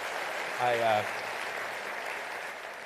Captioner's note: applause